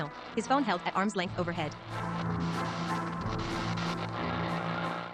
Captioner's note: radio frequencies cycle; alternating static and Waltz